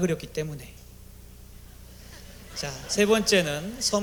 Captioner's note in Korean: 웃음